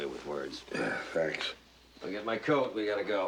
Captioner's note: belches